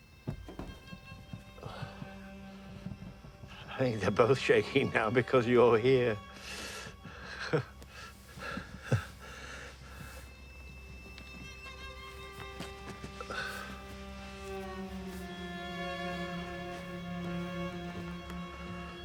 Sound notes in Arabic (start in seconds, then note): 7.2 جيم يضحك